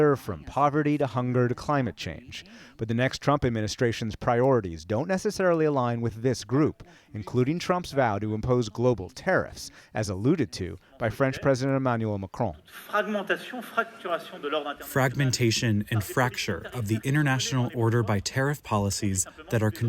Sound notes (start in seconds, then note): 15.4 through translator